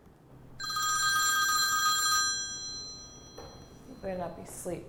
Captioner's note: phone rings